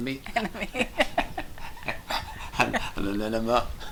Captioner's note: laughs